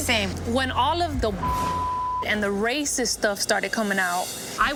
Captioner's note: beep